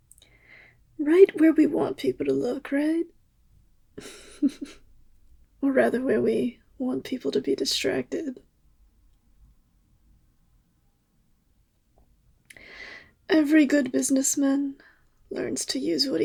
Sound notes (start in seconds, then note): 4.0 laugh